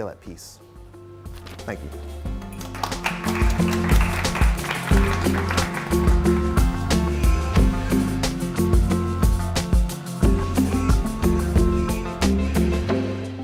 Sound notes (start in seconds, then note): 2.3 crowd applauds